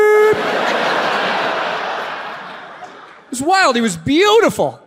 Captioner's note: audience laughs